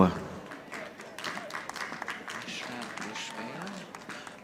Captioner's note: audience applauding